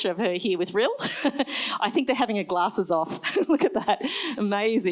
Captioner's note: laughs